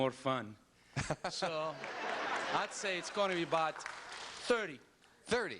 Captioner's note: laughter